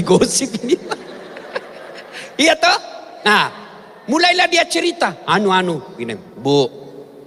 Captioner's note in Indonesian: tertawa